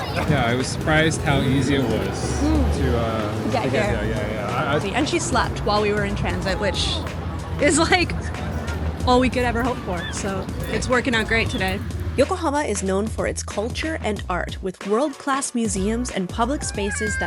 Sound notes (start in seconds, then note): 9.4 chuckling; 11.1 upbeat music